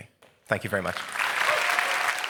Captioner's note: applause